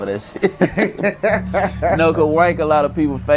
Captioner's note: both laughing